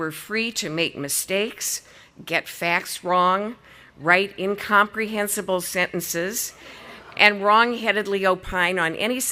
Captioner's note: audience laughing